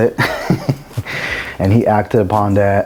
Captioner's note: chuckling